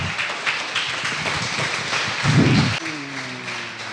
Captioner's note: applause